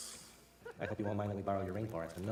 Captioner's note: laughter